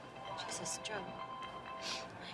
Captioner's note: phone rings